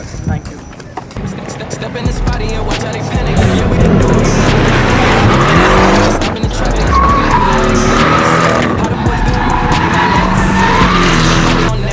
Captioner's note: car exhaust noise with music playing in the background